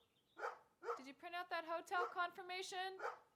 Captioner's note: dog barking